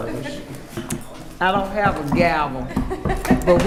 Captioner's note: hitting desk with hand; laughing